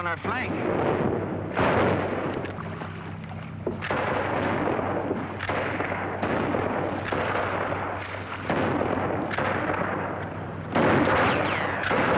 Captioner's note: gunshots